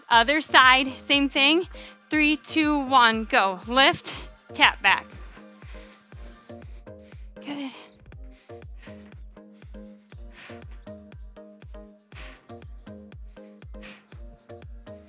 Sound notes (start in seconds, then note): 8.7 breathes; 8.7 soft upbeat music